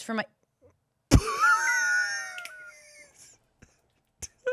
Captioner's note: laughs